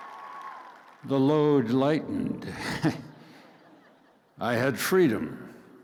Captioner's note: laughs